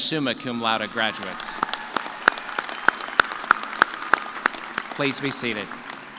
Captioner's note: cheers and applause